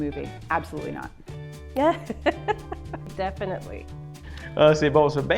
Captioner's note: laughs